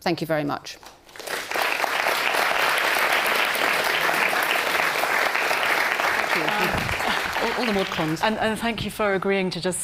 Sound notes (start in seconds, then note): 1.0 audience clapping